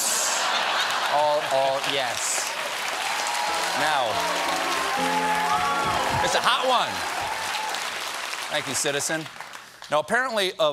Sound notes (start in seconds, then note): 0.1 laughter; 0.8 applause